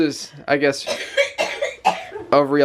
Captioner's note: coughing